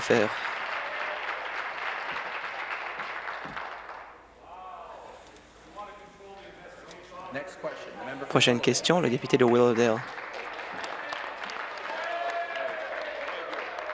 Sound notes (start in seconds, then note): 1.4 some Applause